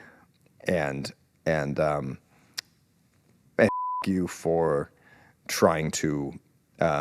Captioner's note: beep